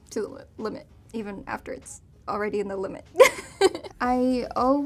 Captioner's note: laughs